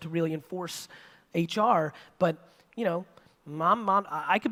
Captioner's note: none